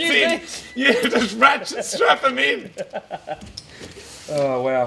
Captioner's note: both laughing